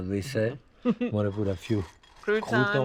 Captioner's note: chuckles